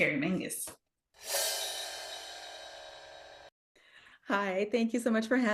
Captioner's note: dramatic ringing